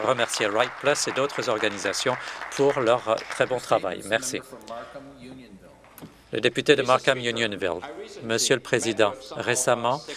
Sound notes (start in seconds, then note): 3.1 some Applause